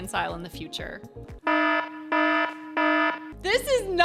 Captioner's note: alarm sounds